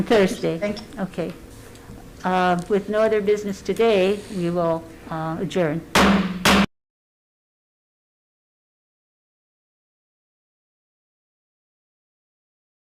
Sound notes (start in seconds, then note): 5.9 gavel bangs